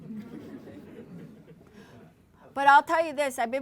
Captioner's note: laughter